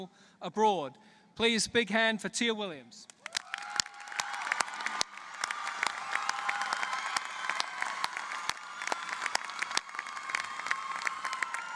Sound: applause

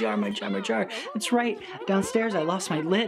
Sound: critters yelling and mumbling

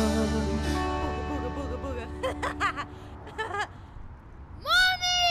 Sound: laughs

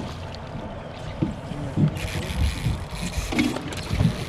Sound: fish splashing

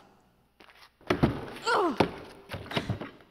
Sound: bonk

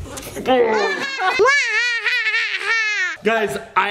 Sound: laughing

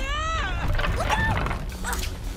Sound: screams; rumbling

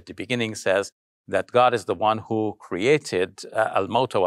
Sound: speaks in arabic

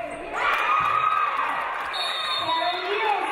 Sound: audience cheering; referee blows whistle

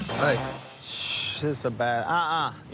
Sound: Willie exhales

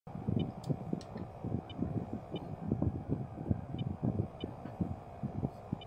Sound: sound of fan

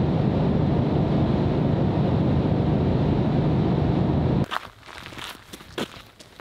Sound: car engine roaring; footsteps

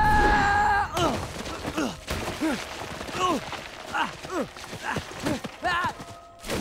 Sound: screaming; grunting, groaning; splashing

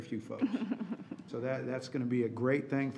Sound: laughing

